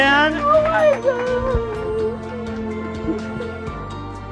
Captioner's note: whimpering